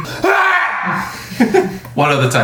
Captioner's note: laughs